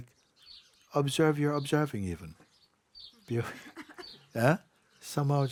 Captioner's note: laughter